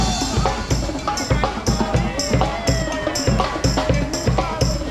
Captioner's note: Hong Kong Disneyland Band cheering on the participants